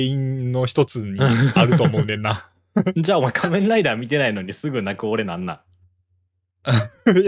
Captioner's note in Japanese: 笑い; 笑い